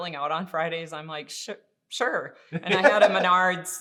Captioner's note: laughing